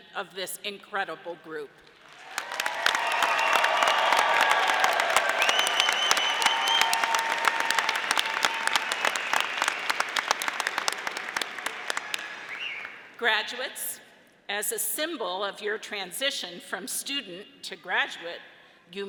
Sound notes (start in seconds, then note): 3.0 audience applauding